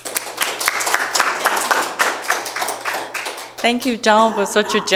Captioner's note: audience applauding